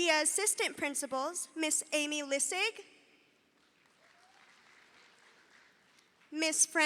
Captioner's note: audience applauding